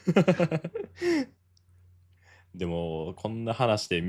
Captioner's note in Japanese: 笑い